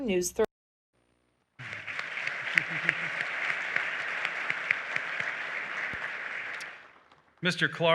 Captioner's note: applause